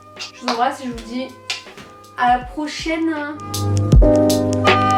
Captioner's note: kiss